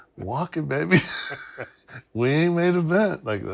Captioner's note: laugh